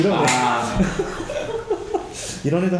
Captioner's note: laughing